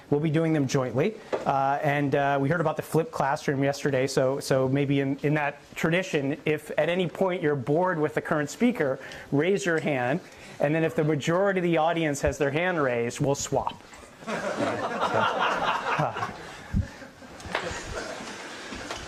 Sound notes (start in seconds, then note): 14.2 audience laughs